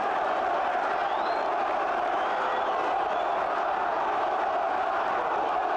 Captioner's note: crowd chants "One more time"